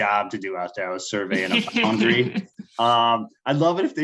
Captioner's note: laughing